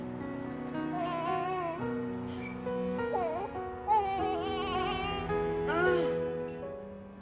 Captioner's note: baby cooing